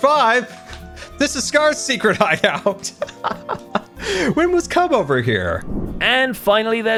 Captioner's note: laughs